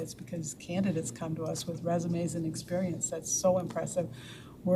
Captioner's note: none